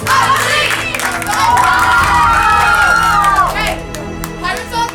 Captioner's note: cheering